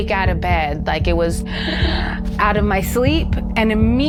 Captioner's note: gasps